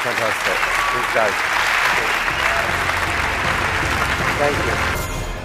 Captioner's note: applause